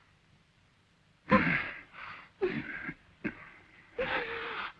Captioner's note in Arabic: كلاهما يئن